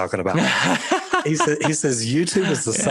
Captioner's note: laughing